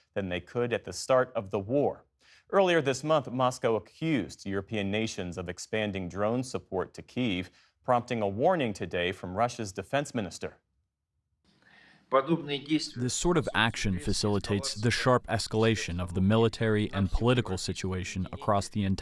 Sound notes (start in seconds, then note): 13.6 through translator